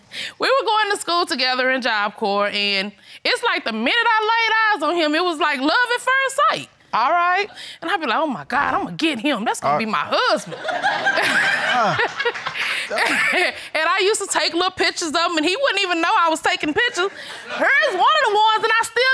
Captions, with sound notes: We were going to school together in Job Corps, and it was like the minute I laid eyes on him, it was like love at first sight. All right. And I'm like, "Oh, my God, I'm gonna get him. That's gonna be my husband!" (LAUGHTER) And I used to take little pictures of him, and he wouldn't even know I was taking pictures. Here's one of the ones, and I still got